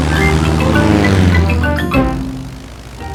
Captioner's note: plane engine revving